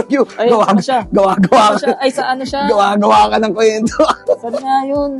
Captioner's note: laughs